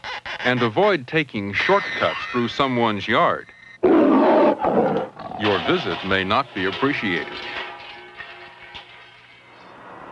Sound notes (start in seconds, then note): 3.8 roaring